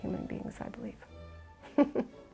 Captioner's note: laughs